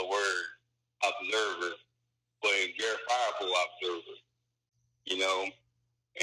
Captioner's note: mutters; mutters